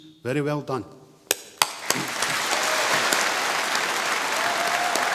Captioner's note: applause